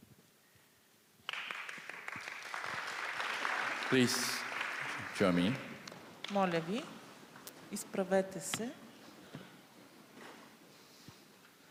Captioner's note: applause